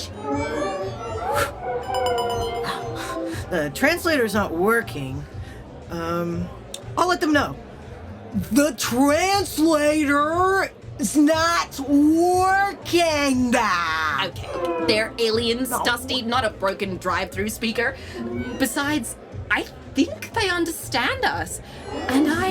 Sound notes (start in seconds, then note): 3.5 Dusty’s translator beeps, and doesn’t translate